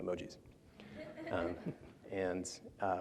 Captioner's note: laughter